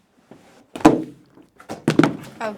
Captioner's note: thud